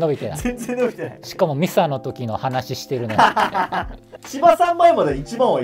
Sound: laughing; laughing

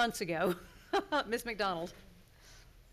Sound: laughing

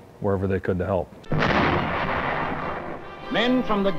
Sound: bomb explodes

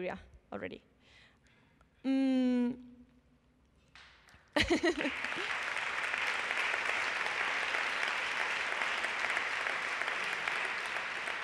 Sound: applause

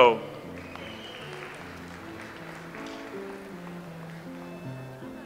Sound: audience applauds

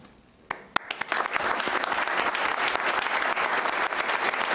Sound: applauding

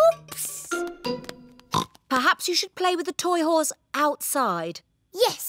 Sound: oinks

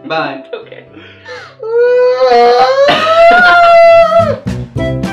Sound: cries loudly

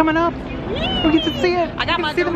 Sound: delighted squeal

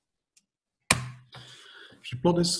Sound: clicks

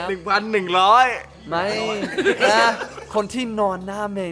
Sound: laugh

